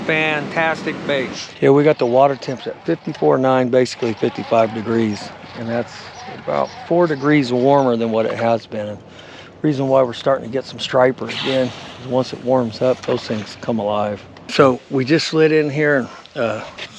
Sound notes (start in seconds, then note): 2.0 reel cranking; 13.5 rod whipping; 14.5 reel spinning